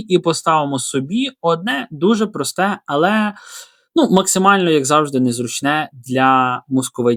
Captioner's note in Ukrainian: сопіння